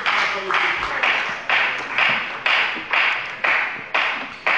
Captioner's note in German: Beifall bei der FDP